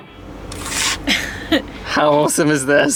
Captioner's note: laughing